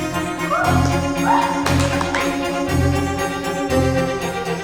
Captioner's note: cheers